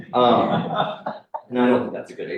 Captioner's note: laughter